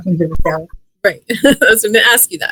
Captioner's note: laughs